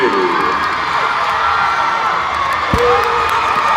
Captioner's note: cheering